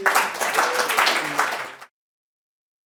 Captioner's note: applause